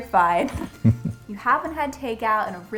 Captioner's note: both laugh